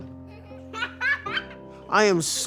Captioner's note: child giggling